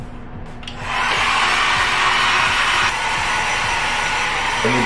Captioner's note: blow dryer running